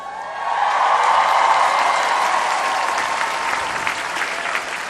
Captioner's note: applause